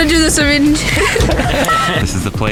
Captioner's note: laughs